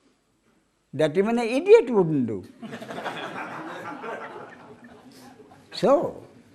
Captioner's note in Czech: smích